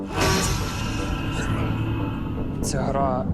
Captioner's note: ominous growling